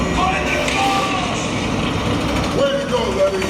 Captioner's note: character yelling